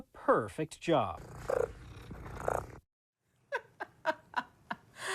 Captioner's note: cat purrs; laughs